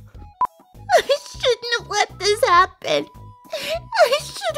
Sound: crying

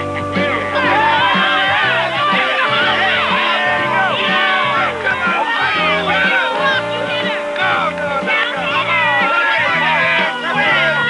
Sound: cheering

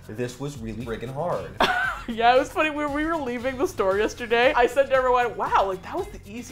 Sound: laughing

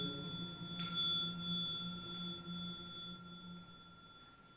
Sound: bell chimes

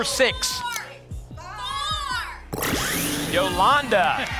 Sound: audience shouting numbers

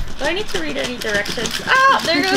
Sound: laughing

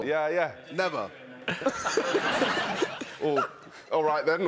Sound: laughing

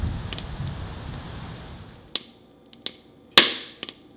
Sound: pop and crackling

